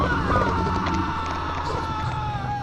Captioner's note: screams